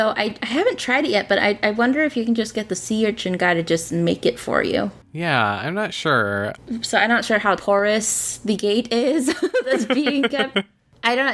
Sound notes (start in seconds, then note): 9.4 laughs